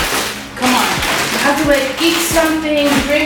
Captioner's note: paper rustling